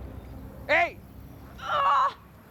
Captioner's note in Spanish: quejido